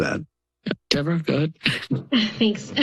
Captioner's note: laughs